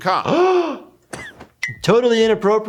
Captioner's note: gasping